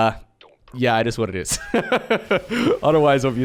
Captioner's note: laughs